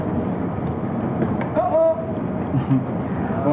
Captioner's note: someone calls out